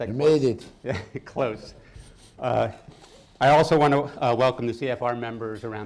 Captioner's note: laughs